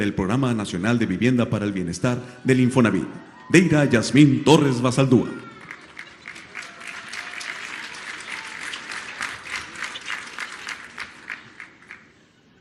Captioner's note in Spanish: aplausos